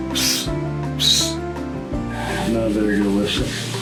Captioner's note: whistling